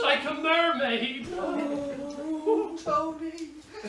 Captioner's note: mrs hardcastle groans